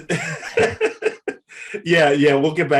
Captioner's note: Eric laughs